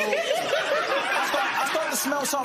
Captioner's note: laughter